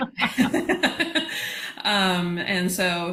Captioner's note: laughter